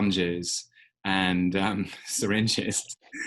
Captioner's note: chuckling